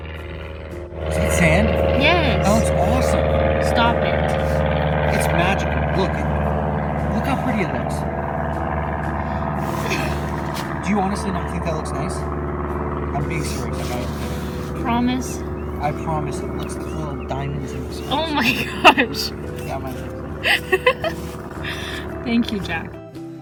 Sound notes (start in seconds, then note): 9.0 laughs; 20.2 laughs